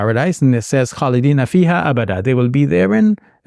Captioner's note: speaking in Arabic